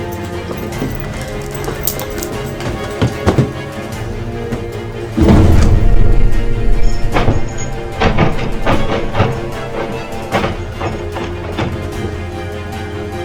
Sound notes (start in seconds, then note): 6.8 doorknob rattling; 10.4 dramatic music